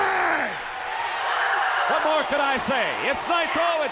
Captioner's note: crowd cheering